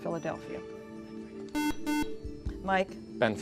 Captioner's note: beep